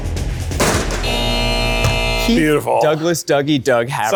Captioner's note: buzzer buzzes